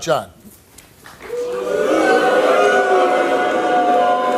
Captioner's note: audience boos